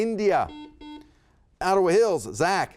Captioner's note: buzzer beeping